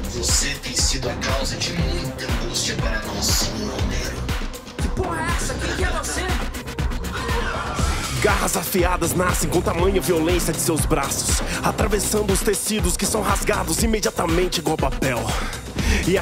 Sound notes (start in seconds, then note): 7.0 robotic scream coming from the mystery person